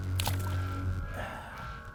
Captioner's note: splash